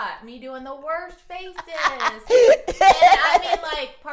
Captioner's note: laughing